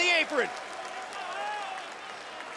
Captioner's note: crowd cheering